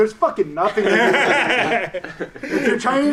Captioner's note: loud laughing covers the speech